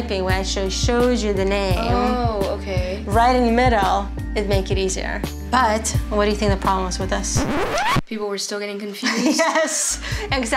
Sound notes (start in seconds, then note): 7.3 record scratch; 9.3 laughs